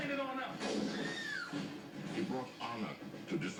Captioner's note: screams